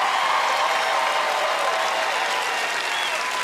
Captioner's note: cheers and applause